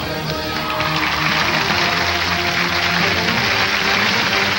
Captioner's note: audience cheering